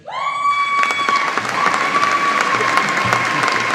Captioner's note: audience applauding